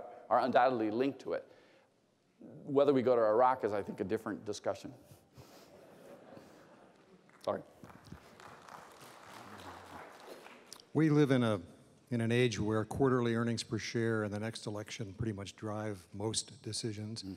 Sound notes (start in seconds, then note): 5.6 laughter; 7.2 applause